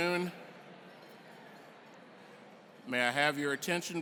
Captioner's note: chatter